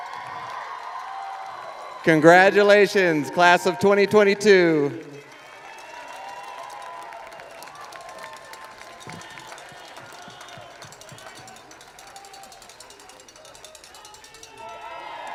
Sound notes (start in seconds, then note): 2.4 cheers and applause